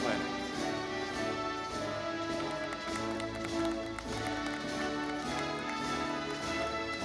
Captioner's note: audience clapping